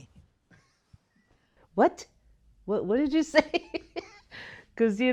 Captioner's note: laughs